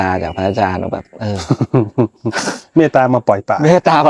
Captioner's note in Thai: เสียงหัวเราะ